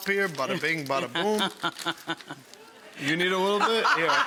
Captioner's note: laughing